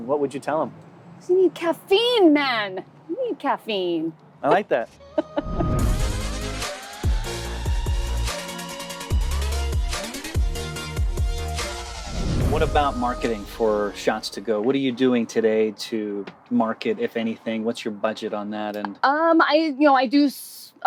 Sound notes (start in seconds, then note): 5.0 laughing; 5.4 upbeat music